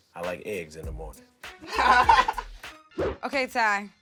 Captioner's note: laughter